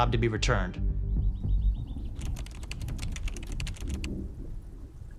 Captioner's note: birds twittering